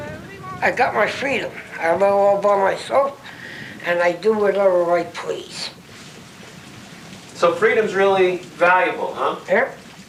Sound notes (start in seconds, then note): 5.9 singing fades out, rain starts